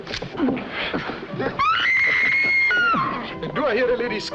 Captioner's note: screaming